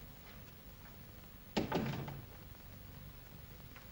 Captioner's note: door closes